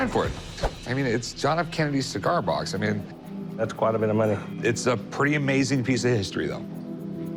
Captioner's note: none